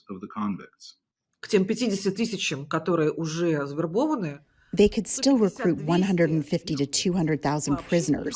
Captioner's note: through translator